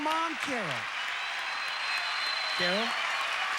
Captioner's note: audience applauding